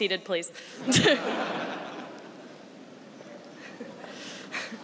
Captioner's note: laughter